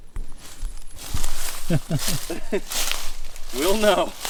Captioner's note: laughing